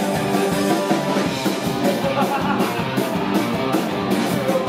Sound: insane pirate laughter

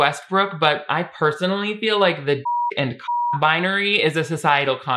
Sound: beep

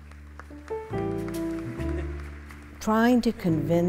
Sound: audience applauding

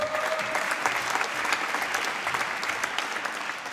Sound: applause

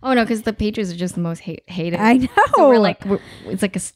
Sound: laughing

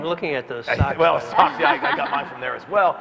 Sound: laugh

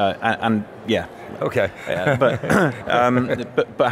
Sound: laughter

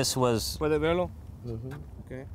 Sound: non-english speech

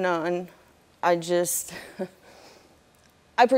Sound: chuckling

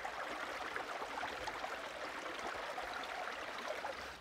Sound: water flowing

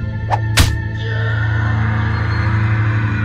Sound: unholy scream

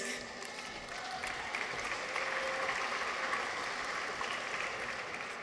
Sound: audience applauds

